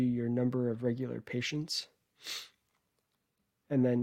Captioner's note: sniffs